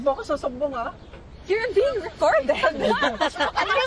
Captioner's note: all laugh